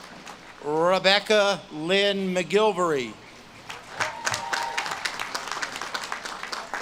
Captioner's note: audience claps and cheers